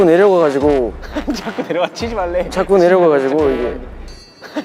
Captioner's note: laughing